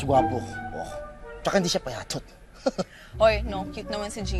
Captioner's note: laughs